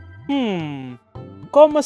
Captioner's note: thonk